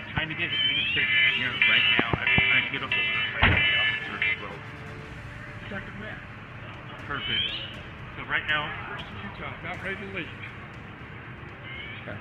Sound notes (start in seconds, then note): 1.8 alarm blaring